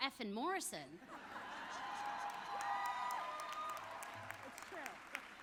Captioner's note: audience laughs